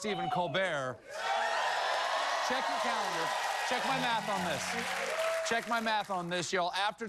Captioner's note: cheering